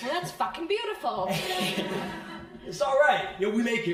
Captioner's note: crowd laughing